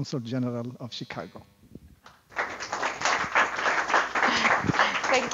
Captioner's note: applause